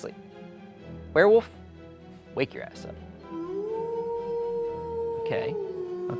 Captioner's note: werewolf howling